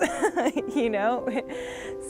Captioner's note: laughs